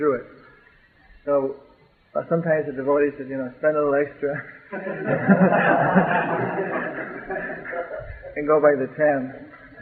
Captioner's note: laughter